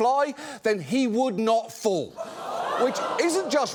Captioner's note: audience exclaims